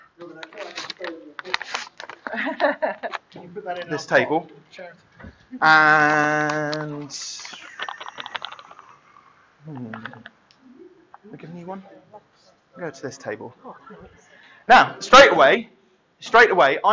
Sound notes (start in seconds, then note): 0.5 chattering; 2.2 laughter